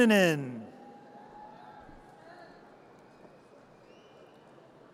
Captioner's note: audience cheers